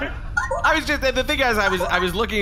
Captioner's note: incoming transmission beeps